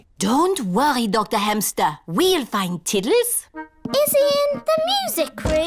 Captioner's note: none